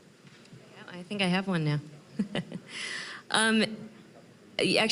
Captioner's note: chuckling